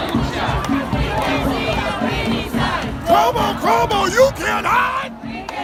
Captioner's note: chanting